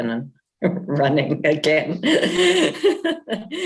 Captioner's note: laughing